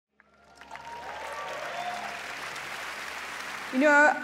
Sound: applause

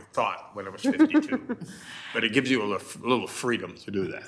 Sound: chancellor laughs

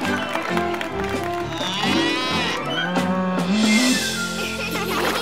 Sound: mooing; laughing

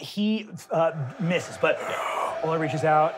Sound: echoed gasping

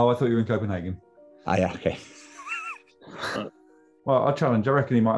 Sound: sniggering

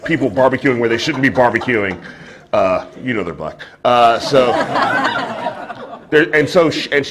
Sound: laughter

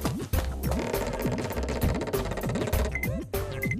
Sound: door creaks

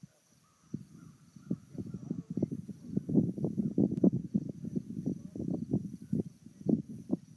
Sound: wind blowing

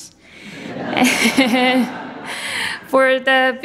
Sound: audience laughs

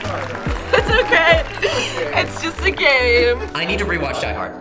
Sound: laughs

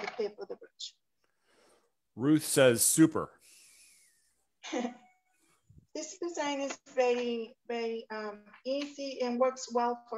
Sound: chuckles

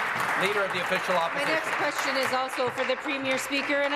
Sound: applause

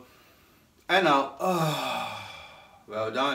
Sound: exhales

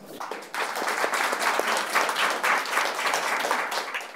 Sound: audience applauds

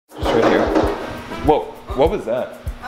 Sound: knocking

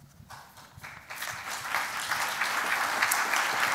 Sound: applause

